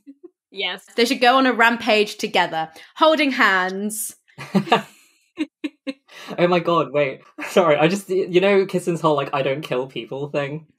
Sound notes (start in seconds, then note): 4.4 laugh